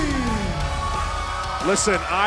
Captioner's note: cheers & applause